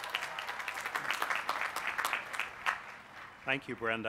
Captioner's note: applause